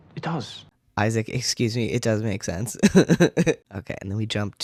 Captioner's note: laugh